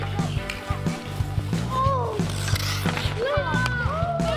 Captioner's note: upbeat music continues; kids chatting